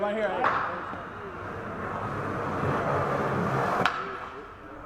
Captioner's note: skateboard wheels gradually grow louder